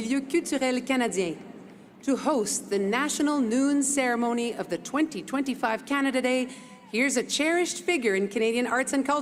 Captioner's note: speaking French